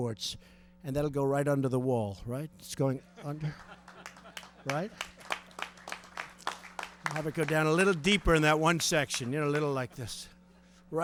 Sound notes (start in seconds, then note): 4.7 laughter and applause